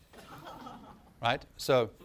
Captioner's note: laughter